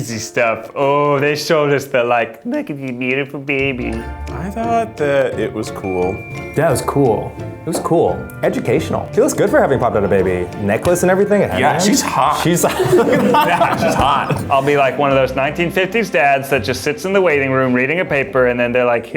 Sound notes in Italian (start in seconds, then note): 11.9 risate